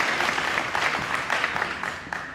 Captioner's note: applause